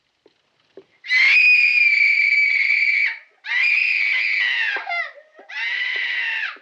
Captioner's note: screaming, sobbing continues